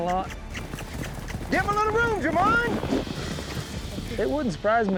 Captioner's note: hoofbeats